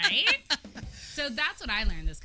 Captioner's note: laughs